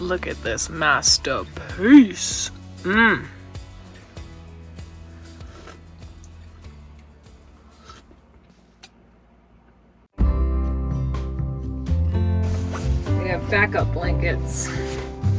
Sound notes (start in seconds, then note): 5.0 slurps; 10.2 gentle music